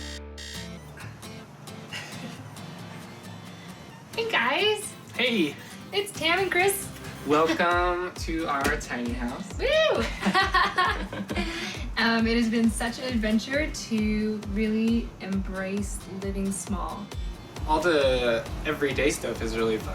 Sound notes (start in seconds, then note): 0.0 alarm buzzing; 0.0 upbeat music; 9.9 both laughing